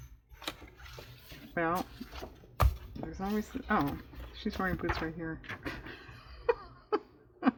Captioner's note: laughs